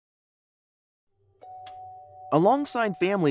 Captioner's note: clock tick